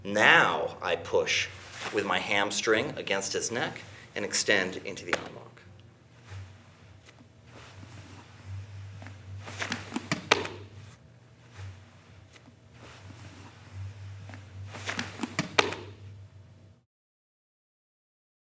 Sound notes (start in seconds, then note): 5.1 gentle tapping; 10.6 soft thudding; 15.6 soft thudding